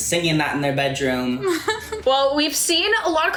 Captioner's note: giggles